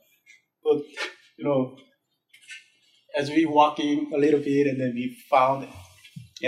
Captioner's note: laughs